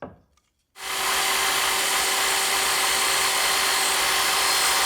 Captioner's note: equipment whirring